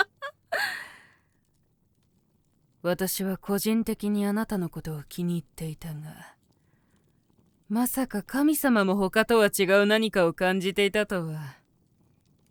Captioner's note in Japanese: 笑い; 息をのむ音